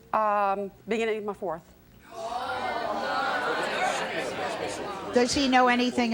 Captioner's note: audience jeering